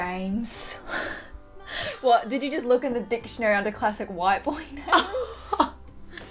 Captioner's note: laughs